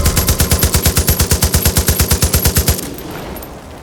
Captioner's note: gunshots